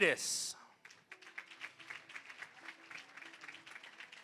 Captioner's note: applause